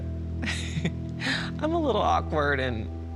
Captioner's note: giggles